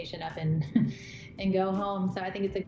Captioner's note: chuckles